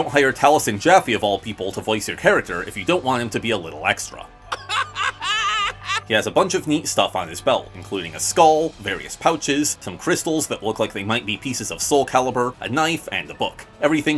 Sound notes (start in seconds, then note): 4.5 laughing